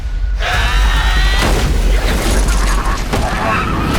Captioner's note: zombie screeching; gunshot firing; body thudding